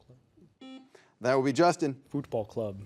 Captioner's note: buzzer buzzes